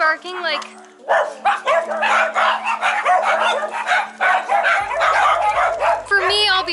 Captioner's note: dogs barking